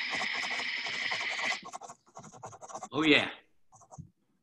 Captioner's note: typing